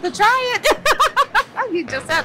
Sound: laughs

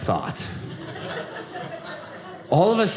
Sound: audience laughing

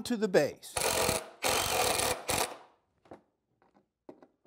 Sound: drill buzzes

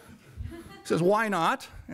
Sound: audience laughter

